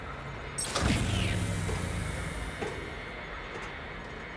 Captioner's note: electronic humming